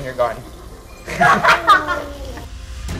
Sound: laughs

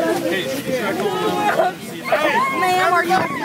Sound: child wailing

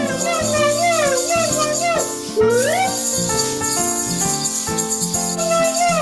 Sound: pompoms rattle

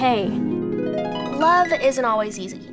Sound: screen chimes

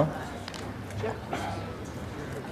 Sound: cracking of neck

